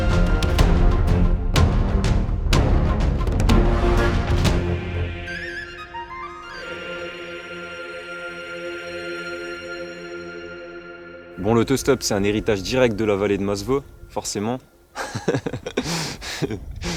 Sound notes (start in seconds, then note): 14.9 laughs